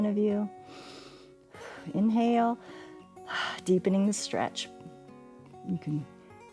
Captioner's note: inhales